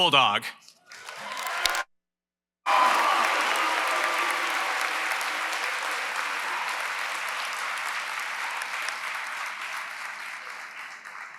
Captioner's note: applause & Cheering